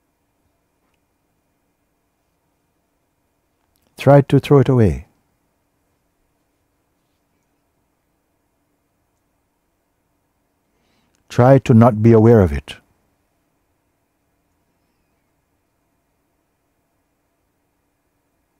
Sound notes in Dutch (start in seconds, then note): 15.0 stilte